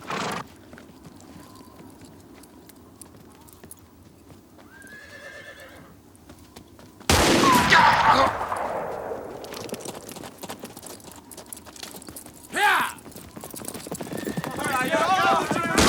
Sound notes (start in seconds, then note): 0.0 horse snorts; 4.7 horse neighs; 7.0 town member groans; 7.1 gun fires; 7.5 town member groans; 13.9 hooves clop; 14.3 townsfolk yell